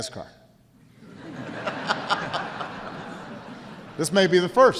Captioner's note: laughter